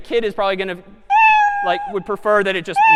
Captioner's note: meow